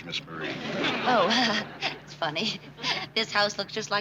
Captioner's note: laughs nervously